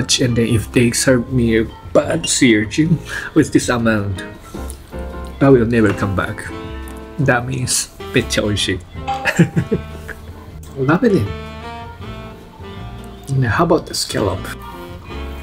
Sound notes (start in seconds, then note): 9.2 laughs